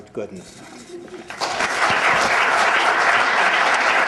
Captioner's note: applause